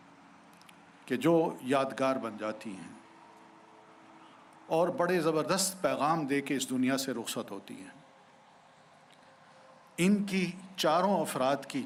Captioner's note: speaking urdu